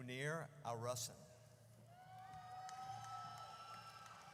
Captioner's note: audience cheers